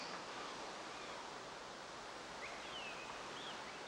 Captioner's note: birds chirping